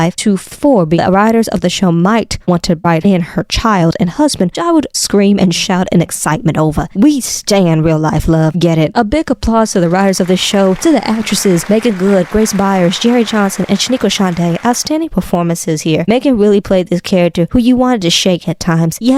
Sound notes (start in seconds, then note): 9.8 faint applause starts in background; 14.5 faint background applause fades